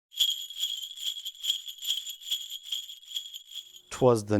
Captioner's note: sleigh bells ringing